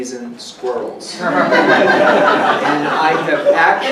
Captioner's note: audience laughing